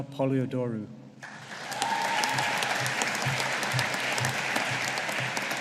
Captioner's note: audience applauding